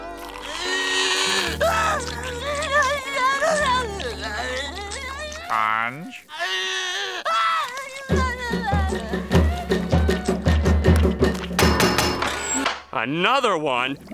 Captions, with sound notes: [crying] Sponge? [crying] [knocking] Another one?